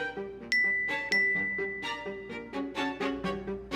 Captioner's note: gentle dramatic music continues; notifications dinging; gentle dramatic music continues